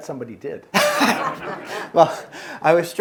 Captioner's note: all laughing